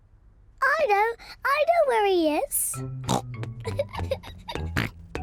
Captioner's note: snorts